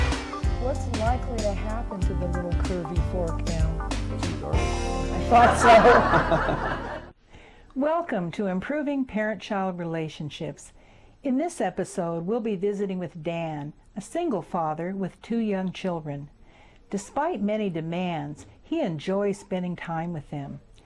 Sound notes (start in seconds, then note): 5.2 audience laughs